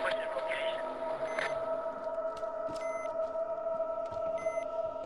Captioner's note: machine beeping